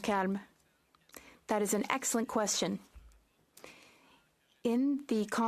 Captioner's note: speaking French